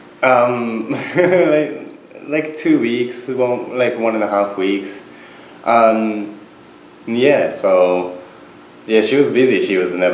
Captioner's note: laughs